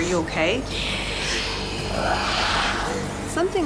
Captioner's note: whispering